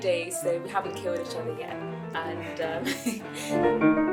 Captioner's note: laughs